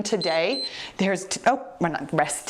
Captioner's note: timer beeps